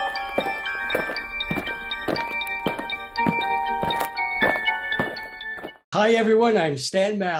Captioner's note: eerie Music; alien footsteps